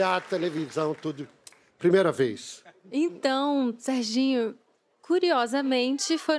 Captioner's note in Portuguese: aplausos